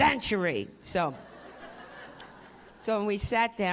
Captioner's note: laughter